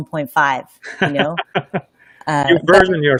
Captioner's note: laughing